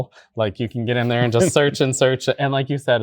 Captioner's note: guy chuckling